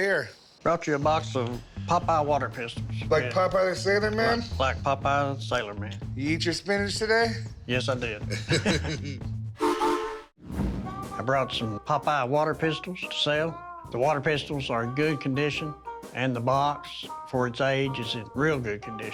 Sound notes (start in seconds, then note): 8.2 chuckling; 9.6 train whistle